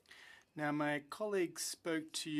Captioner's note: speaking French